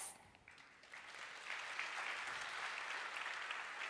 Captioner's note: applause